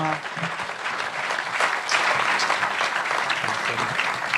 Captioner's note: applause